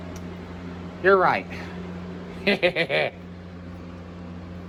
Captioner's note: Caprice laughs